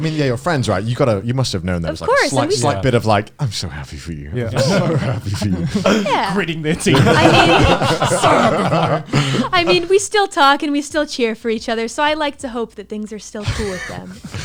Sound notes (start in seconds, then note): 7.1 laughs